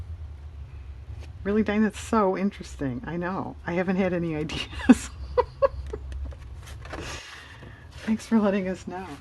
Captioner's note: laughs